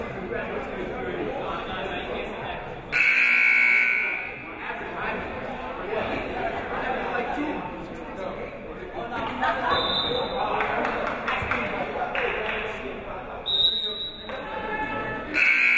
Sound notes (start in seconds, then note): 2.9 buzzer rings; 10.2 whistle shrills